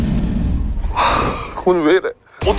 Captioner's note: sigh